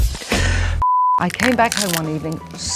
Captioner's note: laughing; signal beeping; stem crunching